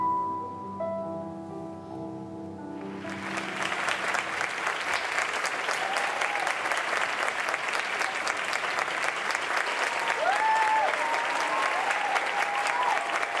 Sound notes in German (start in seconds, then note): 3.3 Applaus; 5.5 Jubel; 10.1 Jubelrufe, Applaus